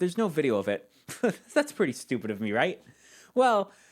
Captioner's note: laughs